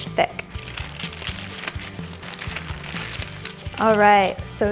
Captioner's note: parchment crinkles